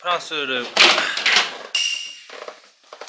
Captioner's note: thud!